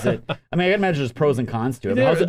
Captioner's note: laughs